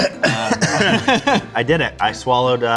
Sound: laughing

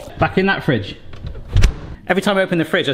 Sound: door closing

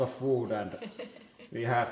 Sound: laughs

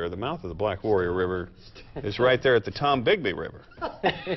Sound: laughter

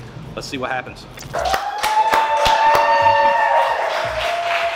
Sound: cheering

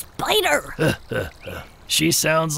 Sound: Mr. Stone chuckles

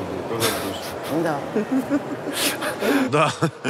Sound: Dud' and Anton laugh

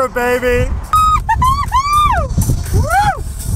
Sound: yelling

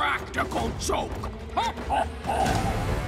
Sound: laughs

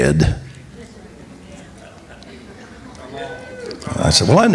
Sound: congregation reacts

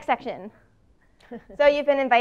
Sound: laugh

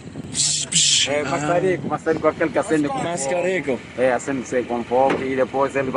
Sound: makes cutting noises; speaking Portuguese

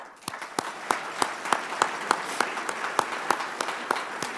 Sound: audience applauding

